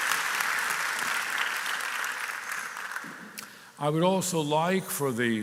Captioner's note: cheering and applause